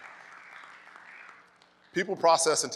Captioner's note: crowd clapping